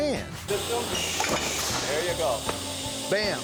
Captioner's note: thud; claps